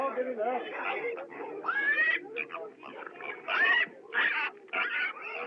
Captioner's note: pig Squealing